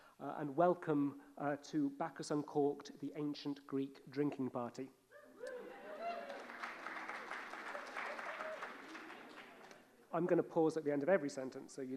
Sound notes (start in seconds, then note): 5.4 audience cheering applauding